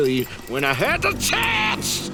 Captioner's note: sighs